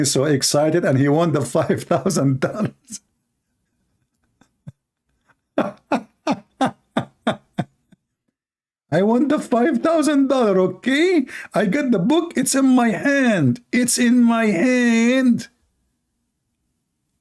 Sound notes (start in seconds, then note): 3.4 Ketawa